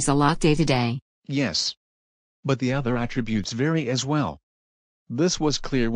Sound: voice-over

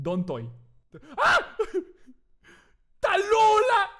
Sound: in Spanish; laughs; screams

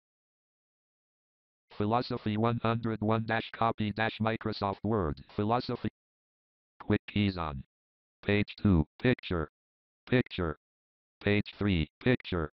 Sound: JAWS Screen Reader Voice

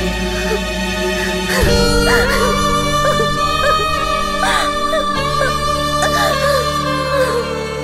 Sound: crying

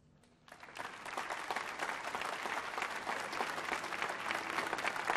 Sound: applause

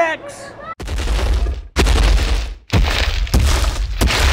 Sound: crashing footsteps

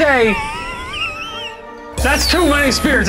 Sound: laughing

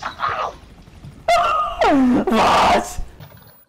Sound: strained laugh

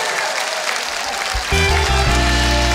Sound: applause; upbeat music

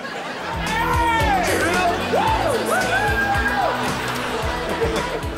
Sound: cheering, music playing

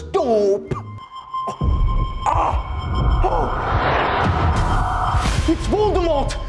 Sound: grunts; high pitched scar induced noise

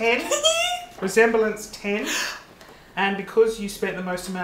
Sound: giggles; gasps

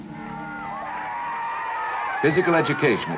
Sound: crowd cheering

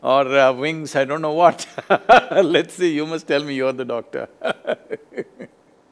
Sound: laughs

